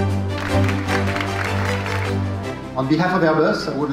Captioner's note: audience applauding